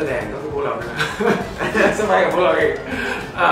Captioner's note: laughs